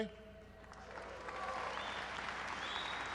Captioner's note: applause